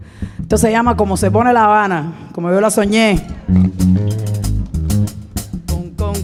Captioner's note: speaking in Spanish; bright music; singing in Spanish